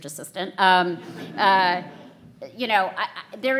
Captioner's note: audience laughs